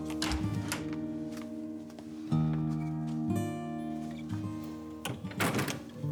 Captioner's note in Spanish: sonido al abrir la puerta